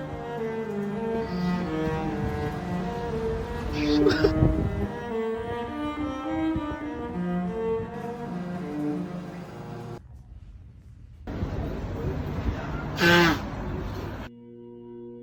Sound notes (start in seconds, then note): 0.0 classical music; 1.2 street sounds